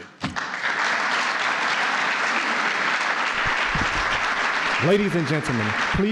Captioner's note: applause